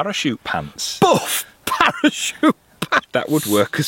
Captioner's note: laughing